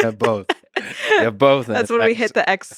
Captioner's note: both laughing